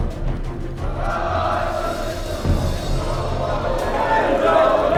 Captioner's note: shouting